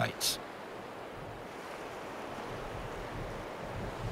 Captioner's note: waves crashing